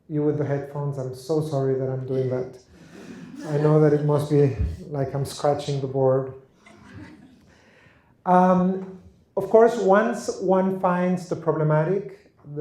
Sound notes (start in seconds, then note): 3.0 laughter